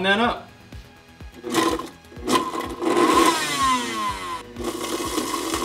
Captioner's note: blender whirs